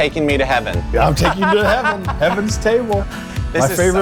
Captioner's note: laughs